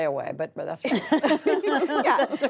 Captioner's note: laughter